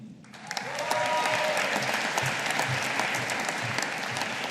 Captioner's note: audience applauding